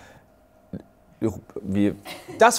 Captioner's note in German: Ratlose Laute